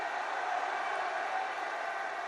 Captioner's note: applause